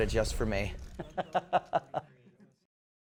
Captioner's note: laughter